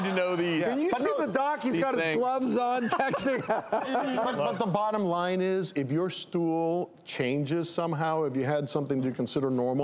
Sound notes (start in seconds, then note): 2.5 laughing